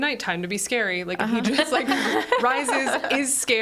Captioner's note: group laughs